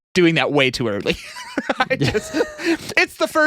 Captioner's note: laughing